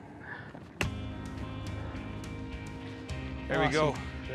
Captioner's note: thud